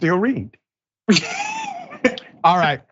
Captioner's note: laugh